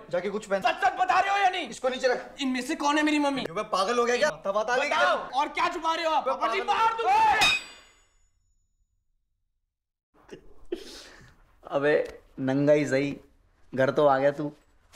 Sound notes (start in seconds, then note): none